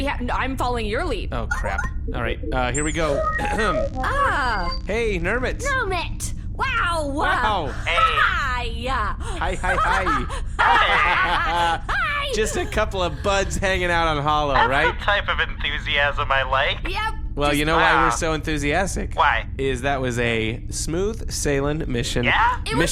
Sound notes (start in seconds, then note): 0.0 stammers; 9.2 exaggerated laugh; 12.4 laughs maniacally